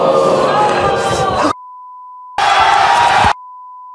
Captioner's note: beep